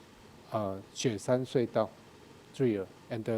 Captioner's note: speaking in a foreign language